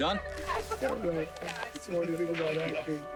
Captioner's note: background Voices